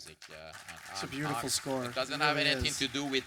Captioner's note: audience applause